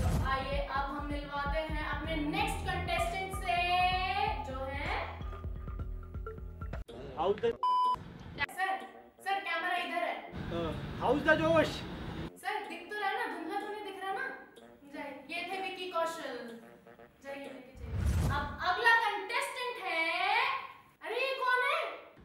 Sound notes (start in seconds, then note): 7.6 beep